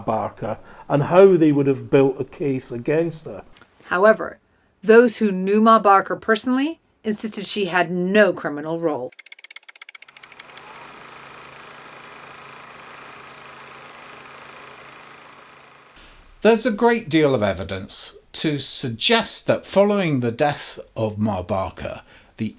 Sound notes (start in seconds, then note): 9.2 typewriter keys clacking; 10.0 projector whirring